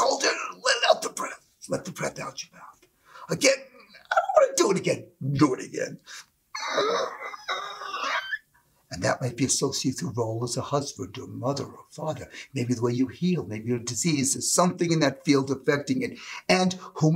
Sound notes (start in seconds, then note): 7.4 screechy sound